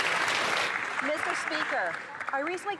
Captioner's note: some Applause